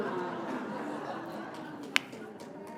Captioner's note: laughter